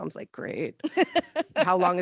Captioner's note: laughing